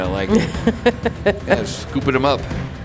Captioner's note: laughing